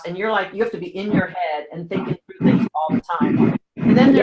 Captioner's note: audio dropping